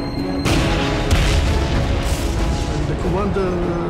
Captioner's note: explosions booming